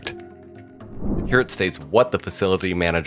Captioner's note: air whooshes